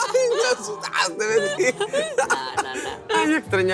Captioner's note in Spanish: Risas